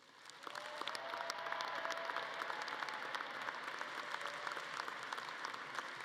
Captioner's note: audience cheering and clapping